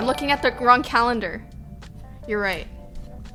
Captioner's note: notification tingling